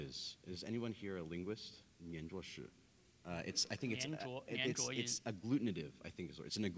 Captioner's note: speaking in Chinese